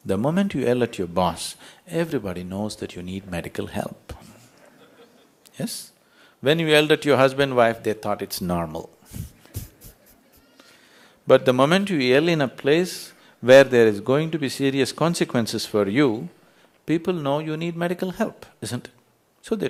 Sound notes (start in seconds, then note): 9.1 ضحك